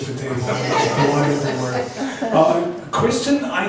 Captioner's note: laughs